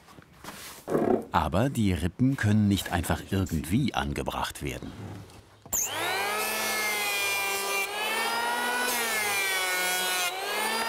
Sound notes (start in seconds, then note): 5.7 whirring of the planer